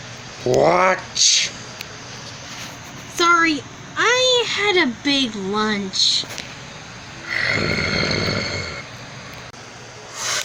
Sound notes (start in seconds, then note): 7.2 Biggie Growling